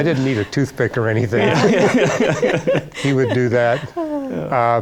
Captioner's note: laughter